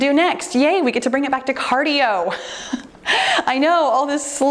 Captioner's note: chuckles